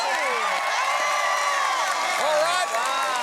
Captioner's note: cheering and applause